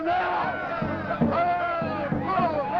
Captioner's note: cheering